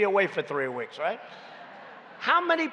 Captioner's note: laughter